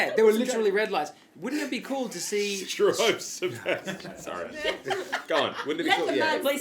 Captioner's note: laughing again